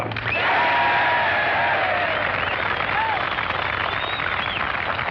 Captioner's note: applause